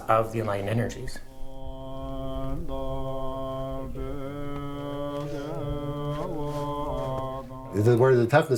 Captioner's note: chanting